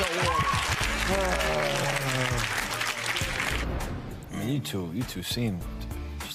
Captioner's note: audience applauding